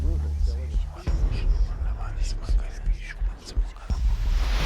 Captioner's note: eerie whispering